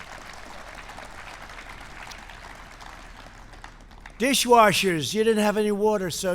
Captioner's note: laughter and applause